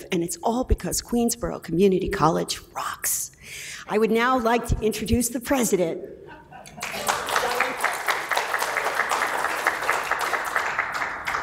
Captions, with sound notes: and it's all because Queensborough Community College rocks. I would now like to introduce the president. (applause)